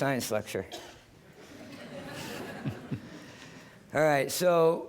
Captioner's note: laughter